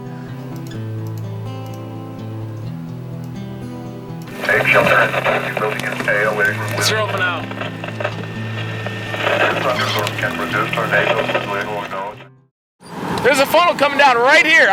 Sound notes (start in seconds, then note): 0.2 soft guitar music; 7.4 speaks faintly